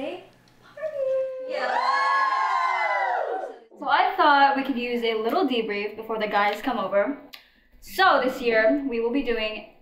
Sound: cheers

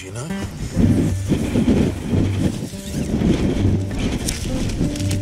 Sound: wind noise

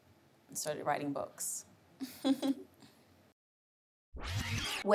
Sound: laughing

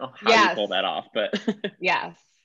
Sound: chuckling

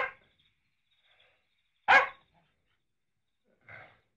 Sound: dog barking; dog barking

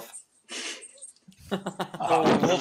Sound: laughing

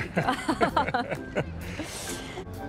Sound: laughing

